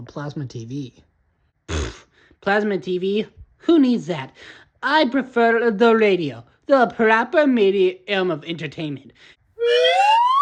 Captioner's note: scoffs